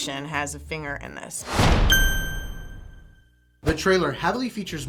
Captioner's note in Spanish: ¡sonido metálico!